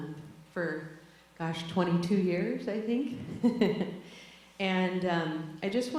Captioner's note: laughs